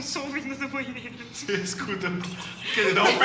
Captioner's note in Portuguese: imitando água